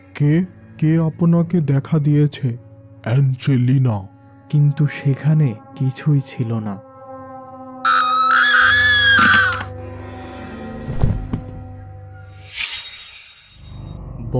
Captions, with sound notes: Who! Who has seen you? Angelina! But there was nothing! [Female scream]